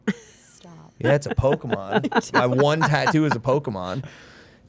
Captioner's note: Steph and Elyse laughing